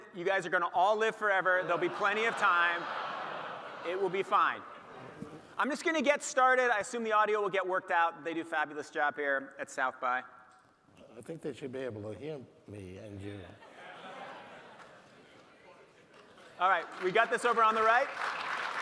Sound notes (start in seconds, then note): 13.6 audience laughing; 18.5 audience applauding